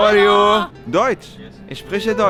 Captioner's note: German